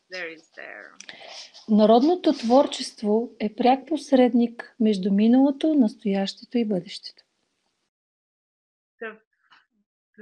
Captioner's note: foreign Language followed by English Interpreter